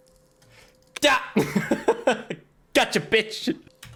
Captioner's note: laughs